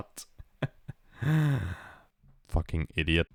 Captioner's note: inhale